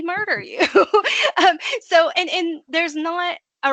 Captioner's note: laughing